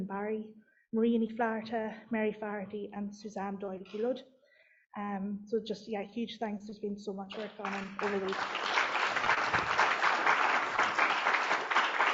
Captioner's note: applause